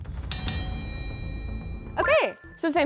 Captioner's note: bell dings